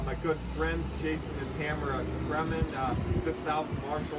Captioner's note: vehicle making noise